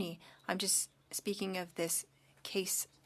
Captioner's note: speaking French